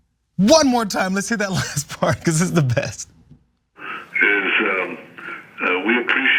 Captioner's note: laugh